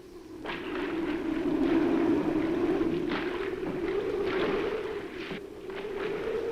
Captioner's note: wind howls; water splashes